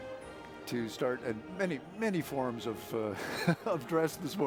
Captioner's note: chuckles